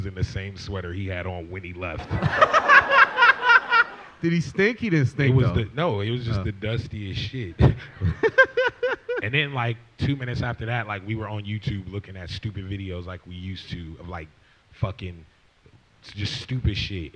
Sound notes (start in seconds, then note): 2.0 laughter